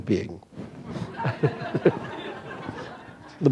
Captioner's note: laughter